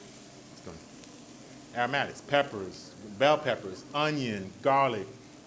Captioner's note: ingtsredien sizzle